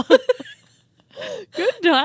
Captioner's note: both laughing